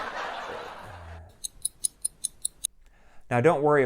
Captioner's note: laughter; clock ticking